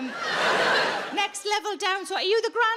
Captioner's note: audience laughs